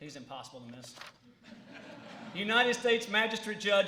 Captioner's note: laughter